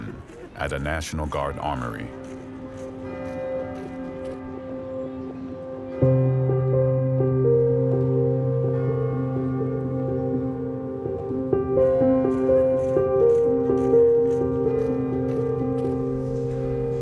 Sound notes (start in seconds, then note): 6.1 bell tolling; 6.1 gentle somber music